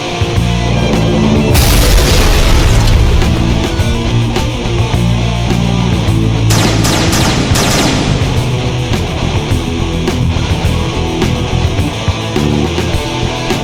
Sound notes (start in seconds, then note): 0.2 explosion booms; 6.4 gun blasting